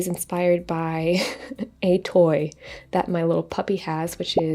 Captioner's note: chuckles